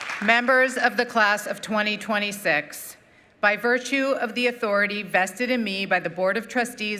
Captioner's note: applause